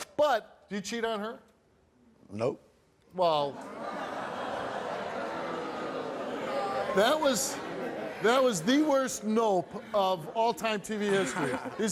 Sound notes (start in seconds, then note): 3.6 audience laughs and boo's